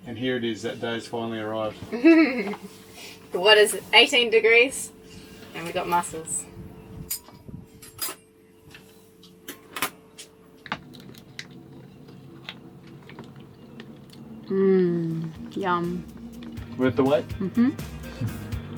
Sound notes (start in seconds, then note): 2.0 laughing; 7.3 spoons tinkling; 13.8 chewing; 17.4 chuckles; 18.4 upbeat music